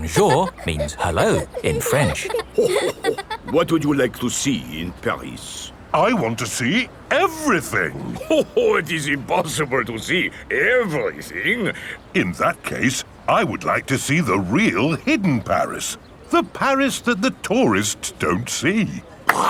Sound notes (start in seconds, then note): 2.8 chuckles